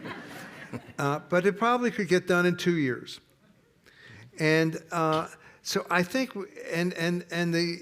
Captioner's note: laughter